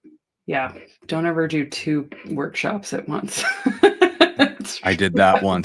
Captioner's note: laughter